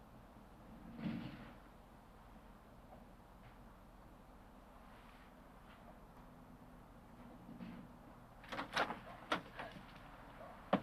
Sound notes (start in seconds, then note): 8.4 door opens and closes